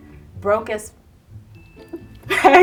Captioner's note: laughing